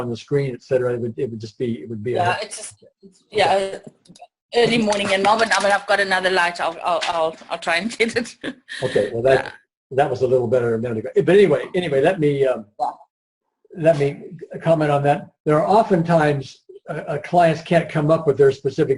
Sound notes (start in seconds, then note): 8.6 laughs